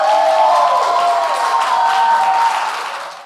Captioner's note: applause and cheers